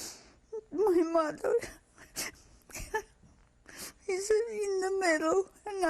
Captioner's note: sobbing